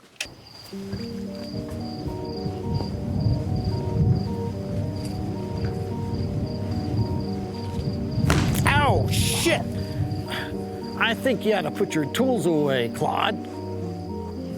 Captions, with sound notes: (thunder) (crickets) (thunder) (thud) Ow! Shit! I think you ought to put your tools away, Claude.